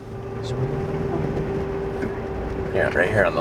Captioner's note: engine sound